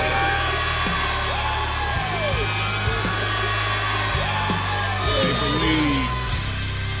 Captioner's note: crowd cheering